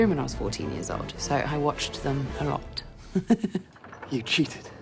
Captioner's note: giggles